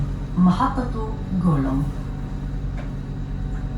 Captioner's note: Arabic